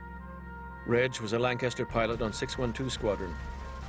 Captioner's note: voiceover